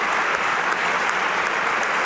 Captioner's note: applause